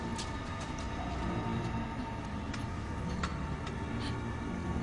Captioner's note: metal groans